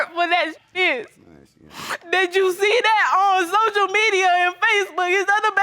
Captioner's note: sniffles